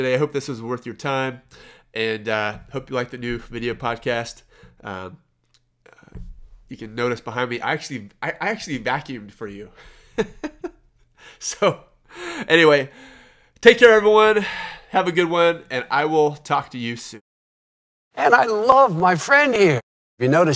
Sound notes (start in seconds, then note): 10.1 laughs